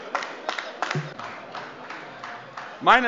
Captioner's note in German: Beifall AfD - Unruhe